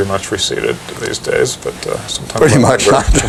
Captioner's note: laughter